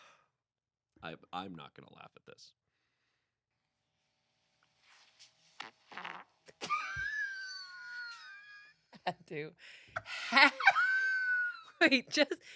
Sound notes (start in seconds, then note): 5.8 recording farts; 6.6 laughs